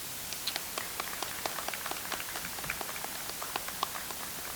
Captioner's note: audience applauds